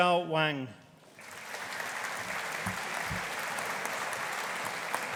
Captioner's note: audience applauding